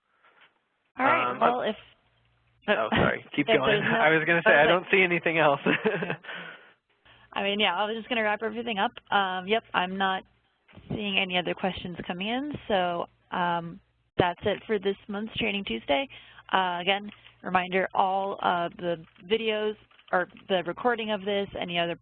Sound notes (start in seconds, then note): 6.6 laughing